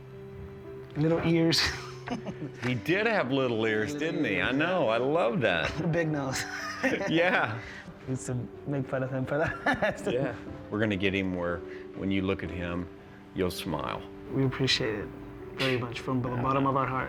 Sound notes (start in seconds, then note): 1.6 laughs; 6.3 laughter